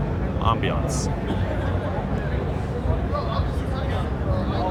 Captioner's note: crowd chattering